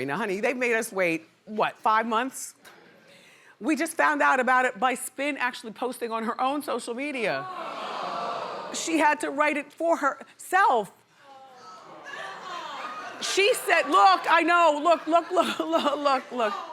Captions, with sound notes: Now honey they made us wait, what, five months. We just found out about it by Spin actually posting on her own social media. (audience oohing) She had to write it for herself. She said, look, I know, look, look, look, look.